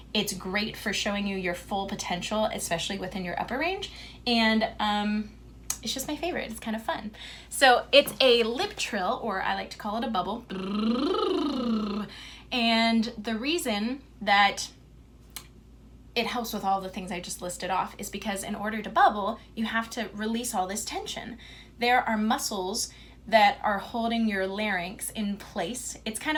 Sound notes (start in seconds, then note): 10.5 demonstrates lip trill